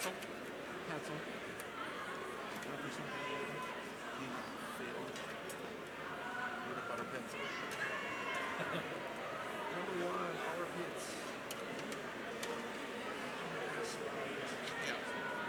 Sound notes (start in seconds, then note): 2.1 crowd chattering; 12.3 crowd chattering